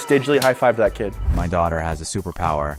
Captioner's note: hands slapping